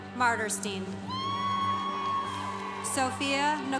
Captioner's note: congregation cheering